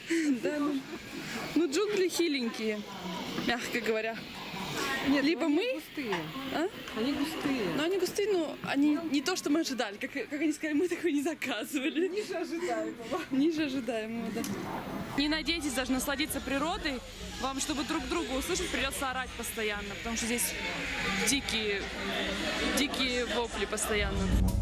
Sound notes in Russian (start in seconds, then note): 11.8 смеётся